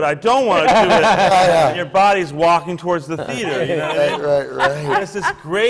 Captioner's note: laughter